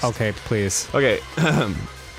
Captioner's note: clears throat